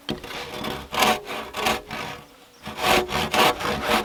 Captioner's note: sawing